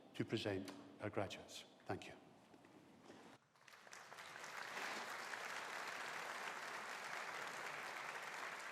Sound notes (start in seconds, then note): 3.5 audience applauding